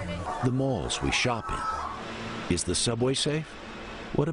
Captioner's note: cheers